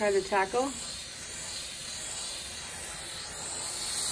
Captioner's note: steam hissing